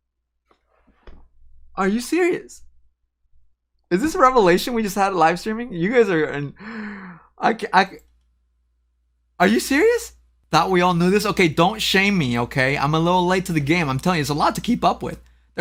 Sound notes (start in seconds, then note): 6.6 gasps